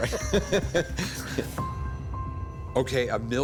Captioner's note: laughter